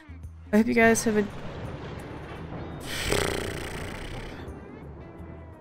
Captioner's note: loud thunder; annoyed horse sound